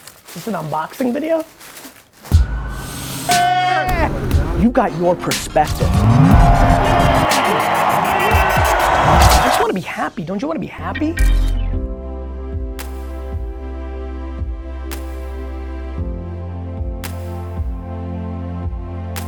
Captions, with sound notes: - Is this an unboxing video? (yelling) You've got your perspective. (electronic music) I just want to be happy. Don't you want to be happy? (thoughtful music)